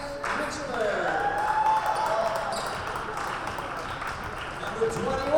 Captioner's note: crowd cheers